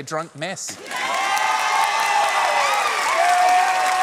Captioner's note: cheering and applause